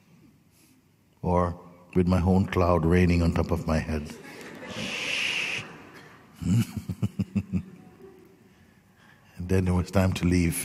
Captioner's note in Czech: smích